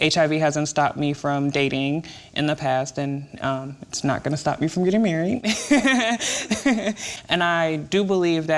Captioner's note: laughs